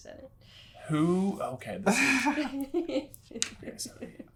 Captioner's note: giggling